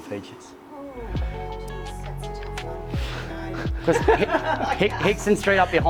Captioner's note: laughs